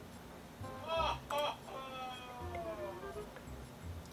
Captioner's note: background shouts "Ohhhhh"